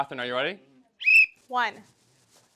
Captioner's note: whistle